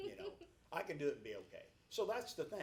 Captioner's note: laughs